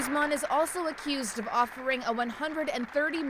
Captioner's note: applause